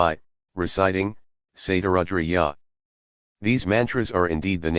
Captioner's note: reciting